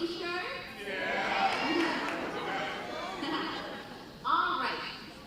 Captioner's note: crowd cheering